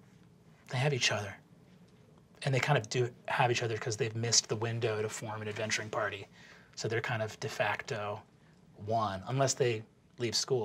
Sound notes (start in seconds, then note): none